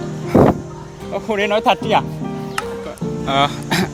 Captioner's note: laughs